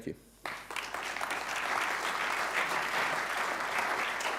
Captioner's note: audience clapping